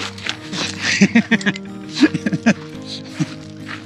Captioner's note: laughing